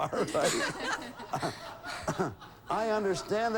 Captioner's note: audience laughing